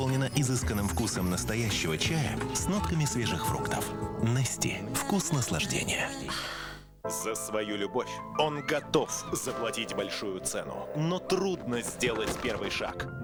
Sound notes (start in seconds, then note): 6.3 sigh